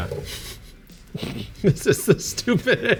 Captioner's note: both laughing